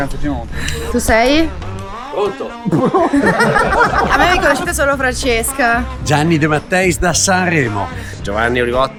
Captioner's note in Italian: risate